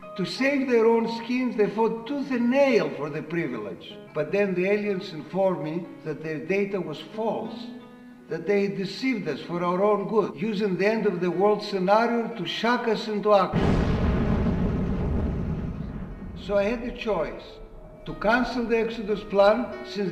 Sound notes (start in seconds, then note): 13.5 explosion booming